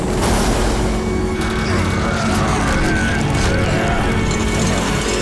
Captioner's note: groaning